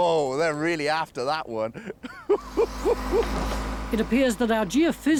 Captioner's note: laughing